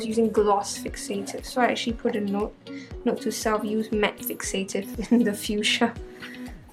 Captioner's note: slight laughter